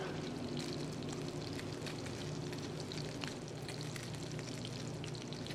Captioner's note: skillet sizzling continues